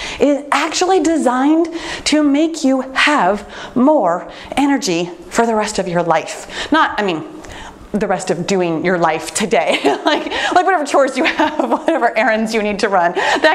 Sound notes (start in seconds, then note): 9.7 laughs